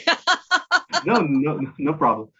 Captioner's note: brief laughter